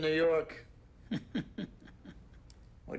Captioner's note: chuckles